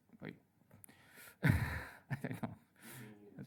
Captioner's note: laughter